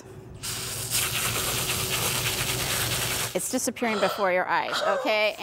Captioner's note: spraying noise